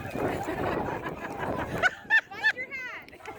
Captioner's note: laughter